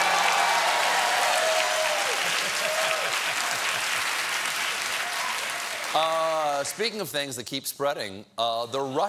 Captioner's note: cheers and applause